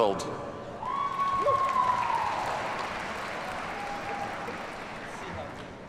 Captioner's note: audience cheers and applauds